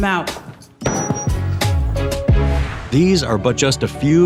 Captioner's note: mic drops